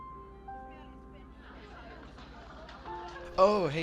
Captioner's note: students begin filing into the classroom while chatting loudly